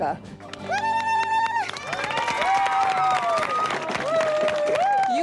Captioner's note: cheers and applause